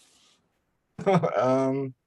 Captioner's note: chuckles